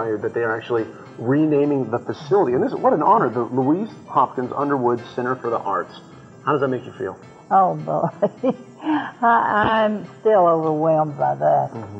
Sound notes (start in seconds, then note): 8.0 laughs